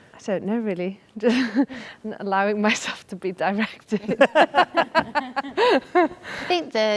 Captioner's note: laughs